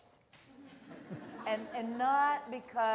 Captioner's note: laughter